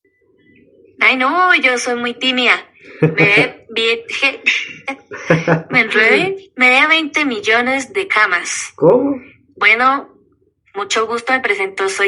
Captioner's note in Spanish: risas